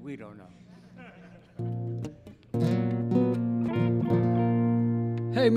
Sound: audience laughing

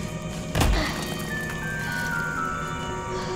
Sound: grunts

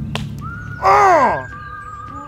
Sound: groans in pain

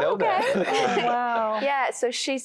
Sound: laughter

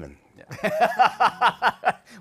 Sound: laughter

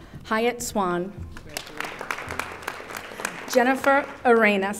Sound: audience applauding

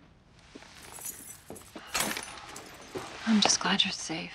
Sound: keys rattle

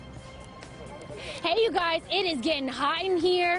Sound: laughter

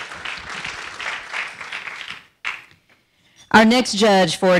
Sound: audience applauding

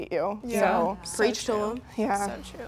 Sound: others agreeing

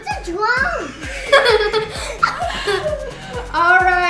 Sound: laughing

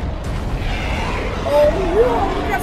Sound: Muto roars; Skullcrawler growls

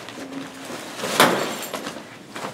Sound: rustling papers

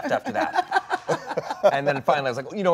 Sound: Gal and Dwayne laughing

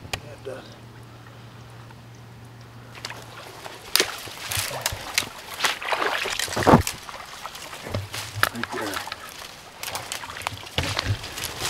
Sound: water sloshing

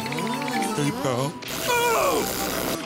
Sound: screaming

